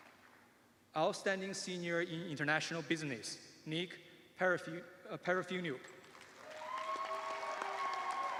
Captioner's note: cheers and applause